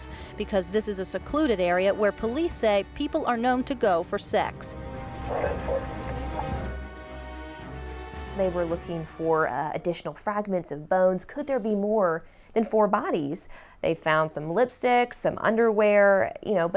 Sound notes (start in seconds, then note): 4.7 suspenseful music; 5.3 radio chatter; 5.3 suspenseful music